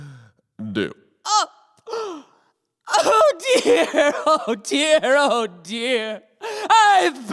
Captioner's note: gasps